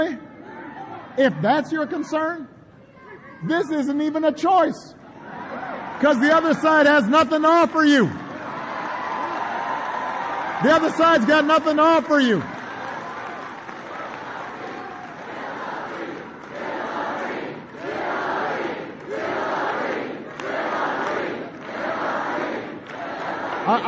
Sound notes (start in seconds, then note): 12.8 applause; 18.9 APPLAUSE—Chants of “Hillary, Hillary”